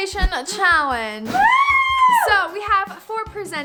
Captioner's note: screams